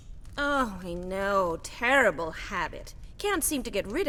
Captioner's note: none